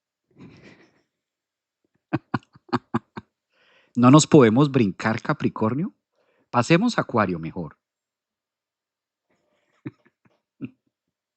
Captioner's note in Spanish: risas